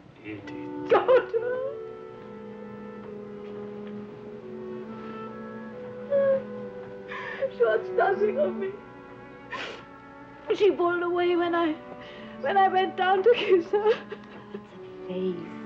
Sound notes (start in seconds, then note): 6.0 Edith crying; 13.3 crying